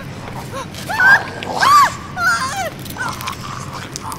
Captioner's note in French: Le travailleur 2 hurle